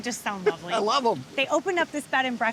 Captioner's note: laughing